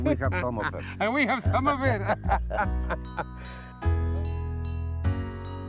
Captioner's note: laughs; cheerful music